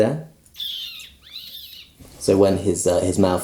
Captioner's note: raptor noises